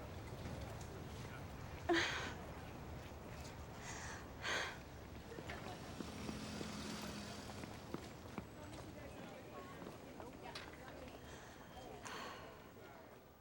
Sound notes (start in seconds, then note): 1.9 sighs